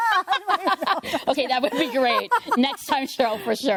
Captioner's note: laughter, indistinct chatter